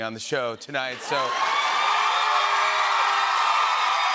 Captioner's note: cheers and applause